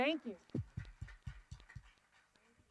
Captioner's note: applause